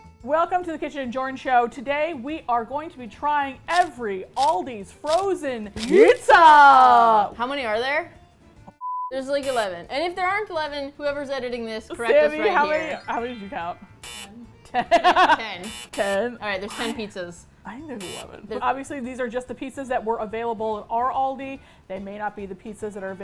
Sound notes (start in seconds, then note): 13.9 buzz; 14.4 laughs; 15.6 buzz